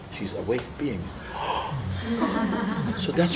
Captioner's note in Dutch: gelach